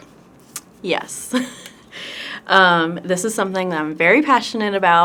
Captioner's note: chuckles